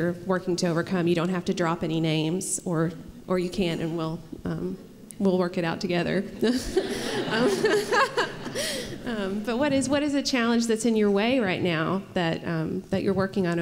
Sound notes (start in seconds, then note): 6.4 laughter